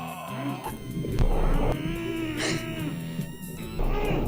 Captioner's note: smoke gusting